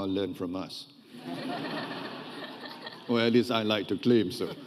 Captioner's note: audience laughing